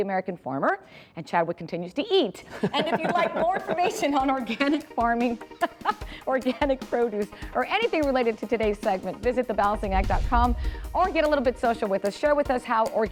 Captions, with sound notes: AMERICAN FARMER. AND CHADWICK CONTINUES TO EAT. (LAUGHING) AND IF YOU WOULD LIKE MORE INFORMATION ON ORGANIC FARMING, ORGANIC PRODUCE OR ANYTHING RELATED TO TODAY'S SEGMENT, VISIT THEBALANCINGACT.COM OR GET A LITTLE BIT SOCIAL WITH US.